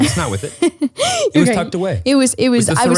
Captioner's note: laughing